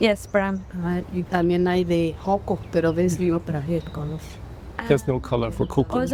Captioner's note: speaking spanish